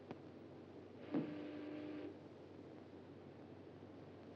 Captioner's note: doorbell buzzes